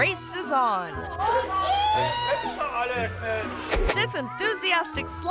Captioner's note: all speaking in foreign language